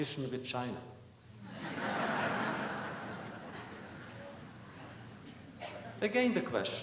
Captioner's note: laughter